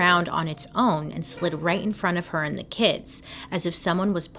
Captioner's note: chair scraping